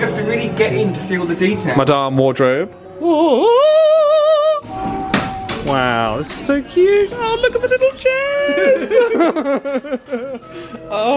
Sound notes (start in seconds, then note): 3.7 imitates wardrobe singing; 8.2 both laughing